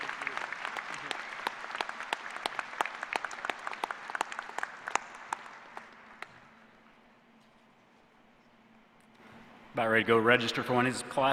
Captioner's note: applause